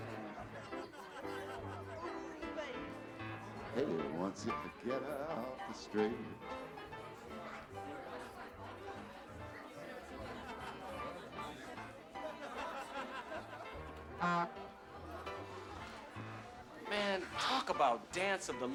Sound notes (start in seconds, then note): 14.2 horn honks